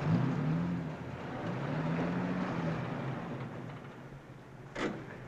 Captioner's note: car engine accelerating